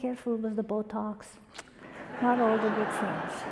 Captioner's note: audience laughter